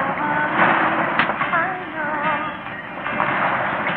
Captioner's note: slapping